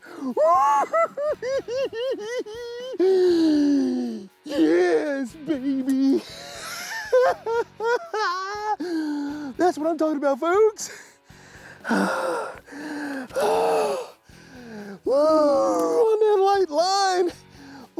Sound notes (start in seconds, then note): 0.2 giggles; 6.7 laughs; 11.5 sighing